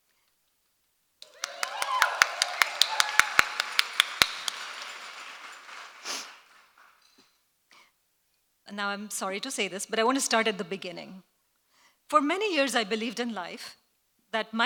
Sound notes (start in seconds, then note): 1.2 applause